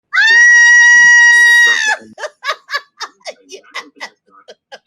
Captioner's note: lady screaming